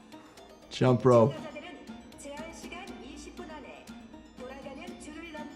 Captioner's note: speaking foreign language